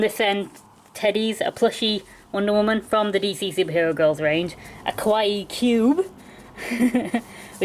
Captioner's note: laughs